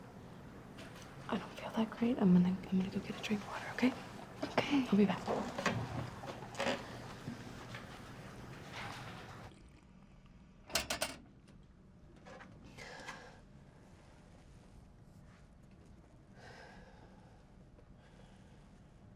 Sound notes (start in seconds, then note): 10.9 metal rattling; 12.9 Ashley sighing